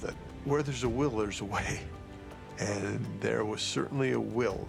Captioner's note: chuckles